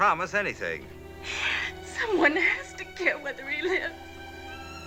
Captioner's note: crying